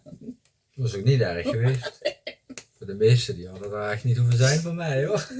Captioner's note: laughter